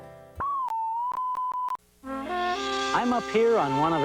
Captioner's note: TV beeps